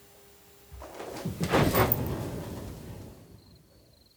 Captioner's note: loud movement sound